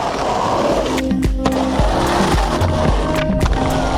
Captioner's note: skateboard wheels grinding; upbeat music